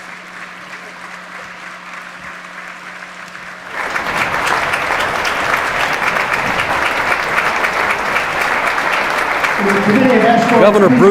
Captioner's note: applause